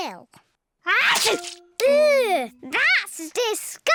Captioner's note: sneezes